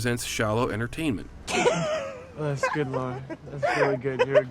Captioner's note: laughs